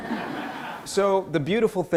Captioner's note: audience laughter